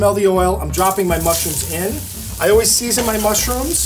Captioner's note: pan sizzles